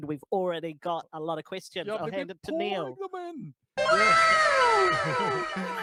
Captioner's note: anime wow sound fx